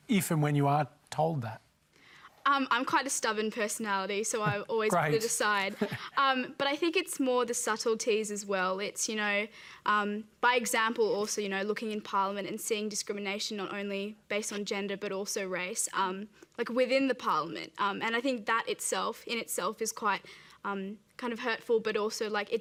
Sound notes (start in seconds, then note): 5.6 chuckles